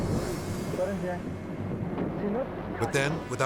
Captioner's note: speaking in Spanish